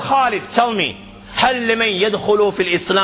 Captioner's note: আরবী